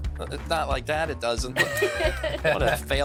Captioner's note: laughing